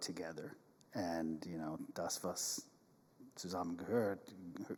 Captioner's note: speaks in German